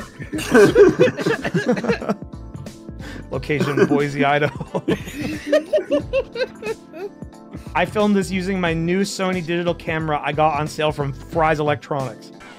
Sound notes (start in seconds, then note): 0.0 laughter; 5.4 laughs